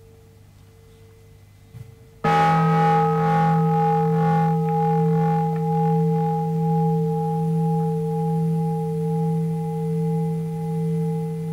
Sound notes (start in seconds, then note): 2.2 bell rings